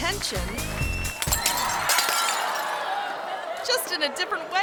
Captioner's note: glass shattering; audience screaming